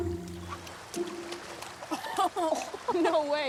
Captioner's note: rock splashing; Benji laughing